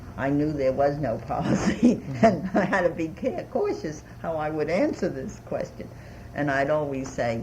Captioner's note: laughs